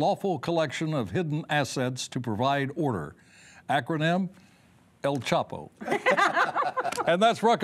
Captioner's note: laughter